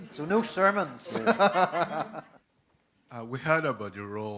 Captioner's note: audience laughing; laughs